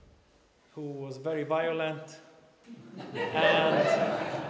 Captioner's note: laughter